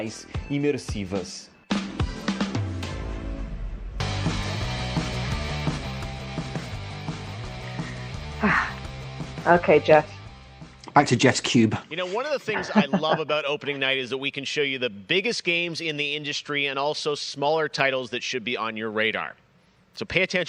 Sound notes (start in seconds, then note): 2.8 speaking foreign language